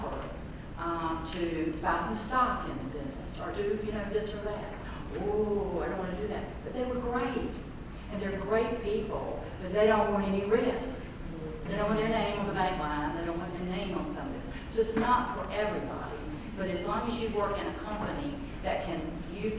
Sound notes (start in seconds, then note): none